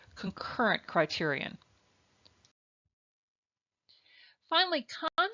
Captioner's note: silence